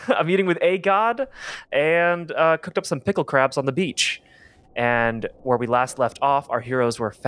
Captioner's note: a low wind sfx fades in